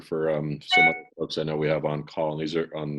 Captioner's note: beep